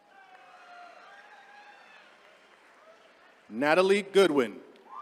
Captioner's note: attendees cheering